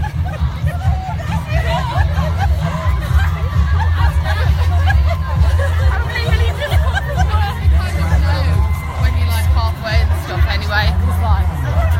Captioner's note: laughter and happy voices